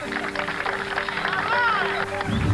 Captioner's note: cheering